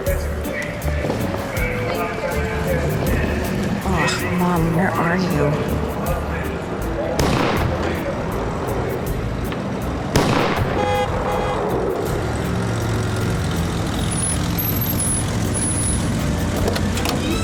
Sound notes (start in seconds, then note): 7.2 car backfires; 10.0 car backfires; 10.6 horn honking; 12.7 brakes squeal, car door opens